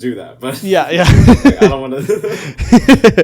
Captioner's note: laughing